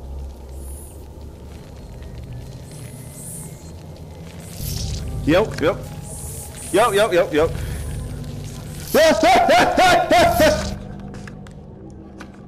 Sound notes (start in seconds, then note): 0.1 tense SFX and hissing getting LOUDER; 6.2 hissing